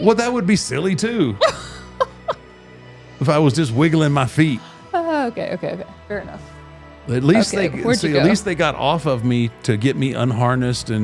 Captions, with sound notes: Well, that would be silly too (host laughs) if I was just wiggling my feet. Oh, okay, okay, okay. Fair enough. Okay, where'd you go? At least they got off of me to get me unharnessed.